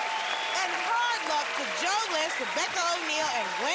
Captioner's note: cheering and applause; whistling